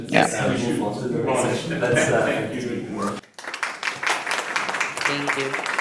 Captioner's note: audience applauding